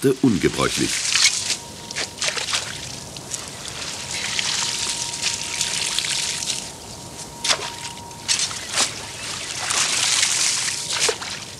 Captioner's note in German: Arbeitsgeräusche und -gespräch